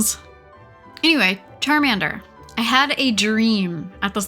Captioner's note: none